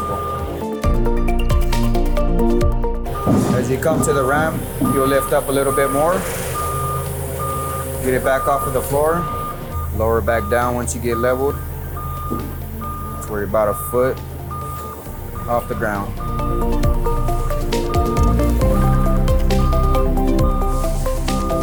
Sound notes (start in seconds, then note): 0.2 upbeat music; 6.3 lift alarm beeps; 16.6 upbeat music; 18.5 lift alarm beeps